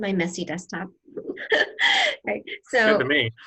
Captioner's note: laughter